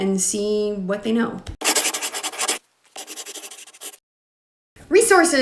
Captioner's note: scribbling